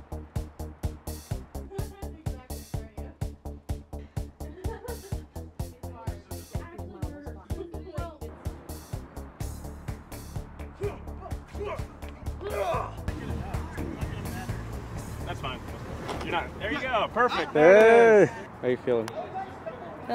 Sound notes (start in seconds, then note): 0.2 upbeat music; 10.7 fighting sounds